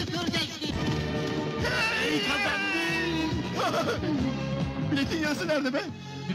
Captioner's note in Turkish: bağirarak